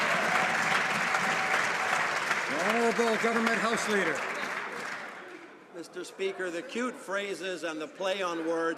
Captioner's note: some Applause